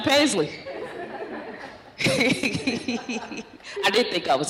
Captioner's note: laughter